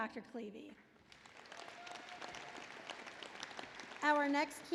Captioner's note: applause